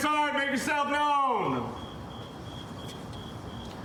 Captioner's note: crickets chirping